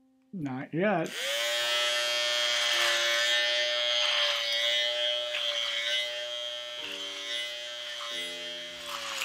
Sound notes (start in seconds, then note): 1.4 shaver buzzing